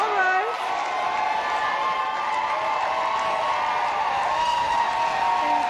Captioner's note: applause